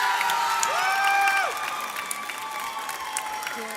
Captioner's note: audience cheers